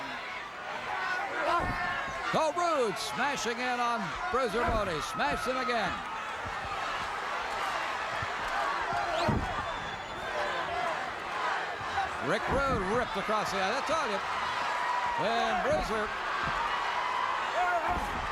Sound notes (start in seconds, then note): 0.4 applause; 6.8 applause